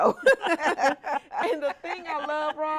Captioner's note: both chuckling